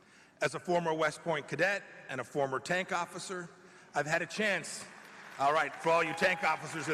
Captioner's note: applause